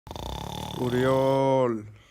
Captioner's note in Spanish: ronquidos